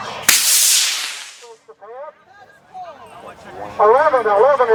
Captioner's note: rocket launching